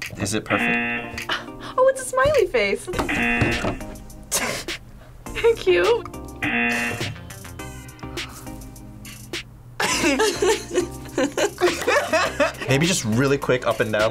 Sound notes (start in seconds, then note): 0.5 buzzer rings; 3.0 buzzer rings; 4.2 laughs; 6.4 buzzer rings; 9.8 both laugh